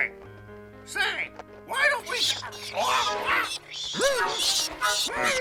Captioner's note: murciélagos chillando